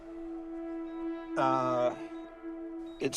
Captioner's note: beeping